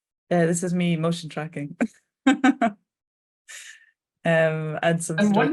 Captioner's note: chuckling